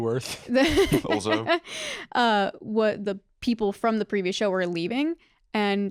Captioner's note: laughs